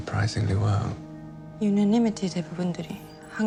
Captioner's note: speaking in foreign language